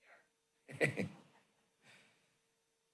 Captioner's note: laughter